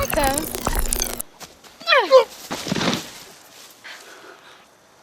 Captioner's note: chirping; thump